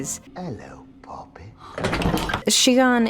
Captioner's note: gasp; crashes